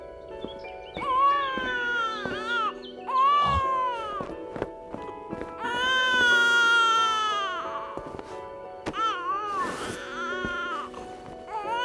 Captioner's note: baby wailing